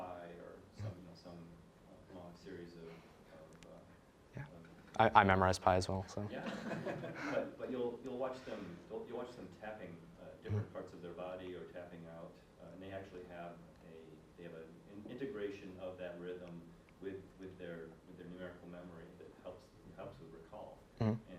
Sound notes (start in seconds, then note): 6.4 audience laughing